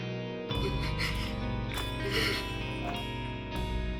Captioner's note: Moira starts crying